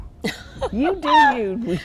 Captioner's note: laughing